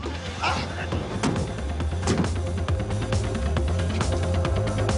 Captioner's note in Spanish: Portazo